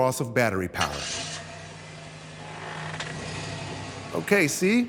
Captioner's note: car engine starting